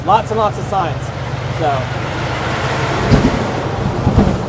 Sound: truck rumbles

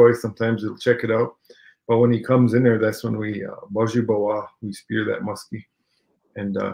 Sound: speaking Ojibwe

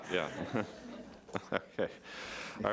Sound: laughing

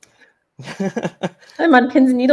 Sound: laughs

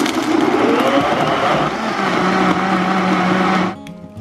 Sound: blender whirring

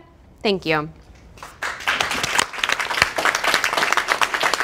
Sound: claps

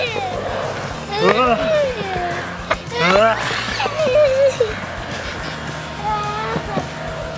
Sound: hollering; shrieking

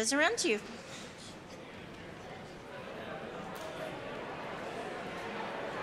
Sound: congregation chatting

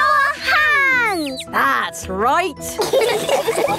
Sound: all laughing

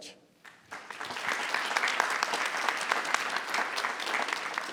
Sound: people applauding

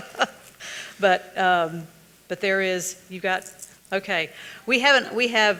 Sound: laughs

